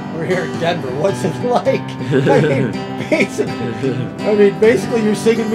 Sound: laughs

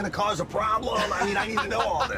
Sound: laughs

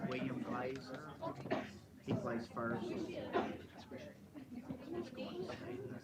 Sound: chattering

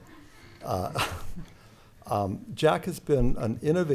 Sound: laughs

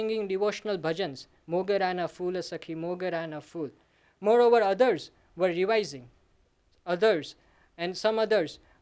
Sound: sanskrit

